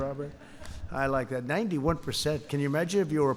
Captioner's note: laughter